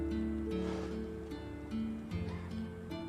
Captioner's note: sighs